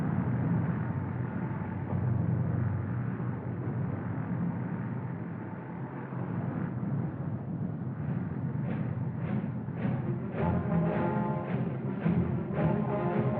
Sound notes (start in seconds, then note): none